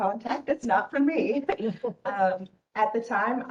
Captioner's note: giggling